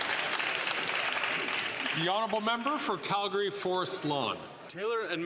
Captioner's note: some Applause